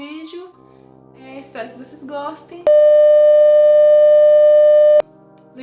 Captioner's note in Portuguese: barulho de bip